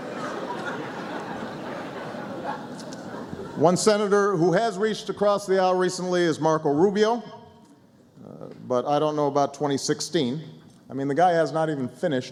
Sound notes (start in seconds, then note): 6.1 laughter